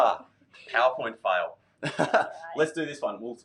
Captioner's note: laughs